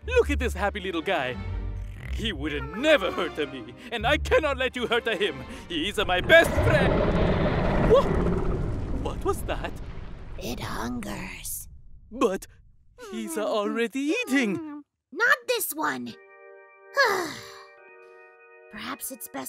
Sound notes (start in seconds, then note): 17.0 sigh